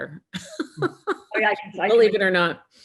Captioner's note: laughing